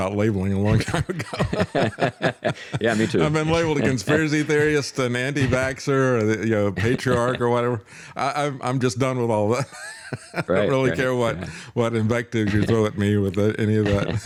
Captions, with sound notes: labeling a long time ago. (Both Laughing) Yeah, me too. I'm not sure what the conspiracy theory is to Nandi Vaxer or the patriarch or whatever. I'm just done with all that. (Laughs) I don't really care what what invective you throw at me with any of that.